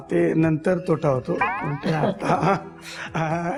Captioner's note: laughs